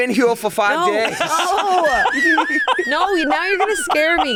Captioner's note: laughing